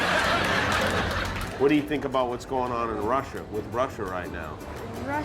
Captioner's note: laughter